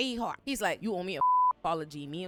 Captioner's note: beep